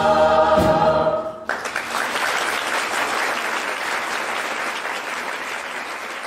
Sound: singing; applause

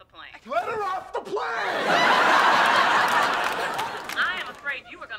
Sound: audience laughing

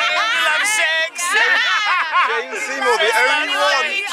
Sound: laughing

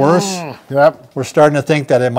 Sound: groans

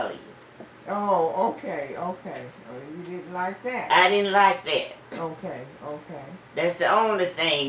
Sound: laughs

